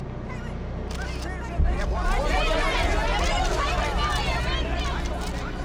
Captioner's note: indistinct clamoring